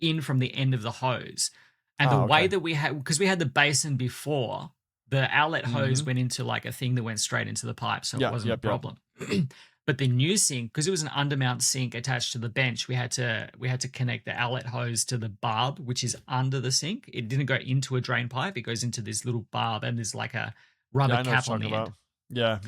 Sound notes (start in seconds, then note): 9.2 clears throat